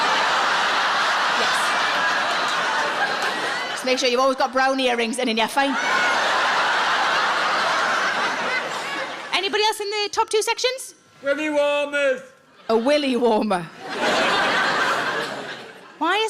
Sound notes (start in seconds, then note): 0.0 audience laughs; 5.6 audience laughs; 13.6 audience laughs